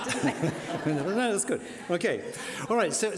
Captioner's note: laughing